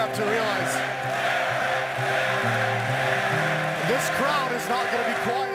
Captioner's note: crowd chanting